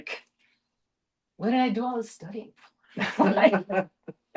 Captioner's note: laughter